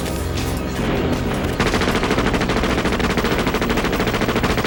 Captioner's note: gun firing